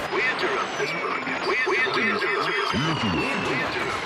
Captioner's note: warping